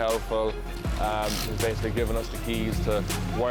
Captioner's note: car clicks